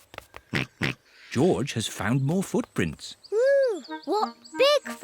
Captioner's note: snorts